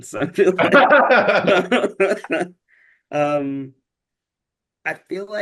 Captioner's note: chuckling